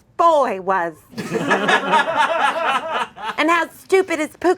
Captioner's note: audience laughing